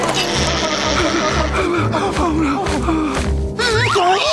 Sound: whimpering

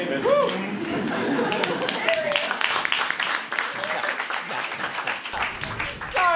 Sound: audience applauds

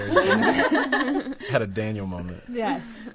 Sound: laughter drowns out speaking

